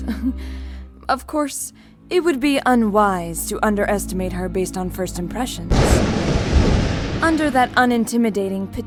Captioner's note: chuckle; thunder